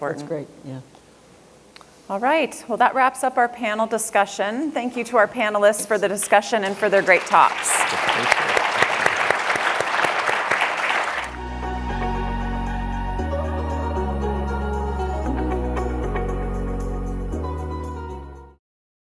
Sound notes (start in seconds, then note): 6.6 audience applause; 11.1 upbeat music